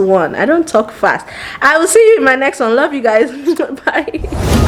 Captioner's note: chuckles